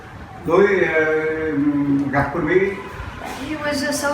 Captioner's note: man speaking Vietnamese